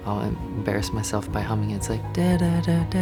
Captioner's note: hums tune